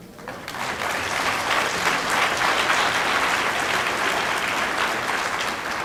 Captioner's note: applause